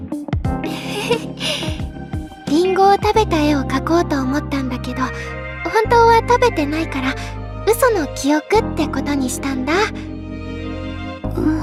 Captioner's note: chuckles